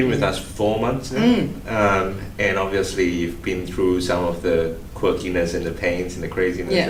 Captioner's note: mmm